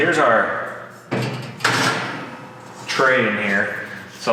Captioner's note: metal clangs